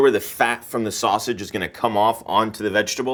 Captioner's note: none